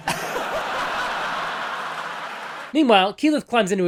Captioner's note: laughter